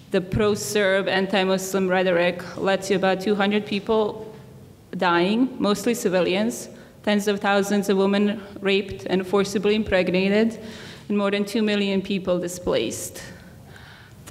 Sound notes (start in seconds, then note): none